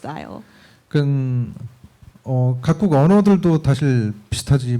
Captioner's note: speaking korean